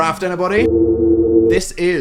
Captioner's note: ominous sound